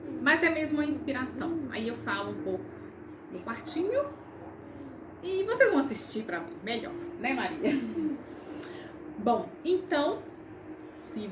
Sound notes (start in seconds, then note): 7.3 laughs